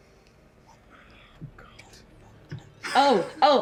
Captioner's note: whisper chants